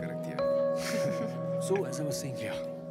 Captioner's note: Both chuckle